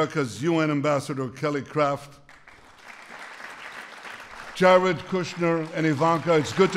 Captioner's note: applause